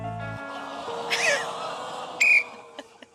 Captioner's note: audience groans; tom blows whistle